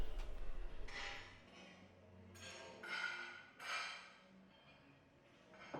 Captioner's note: silverware clinking